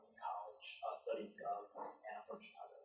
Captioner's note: faintly speaking